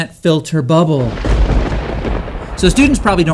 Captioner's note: crackling thunder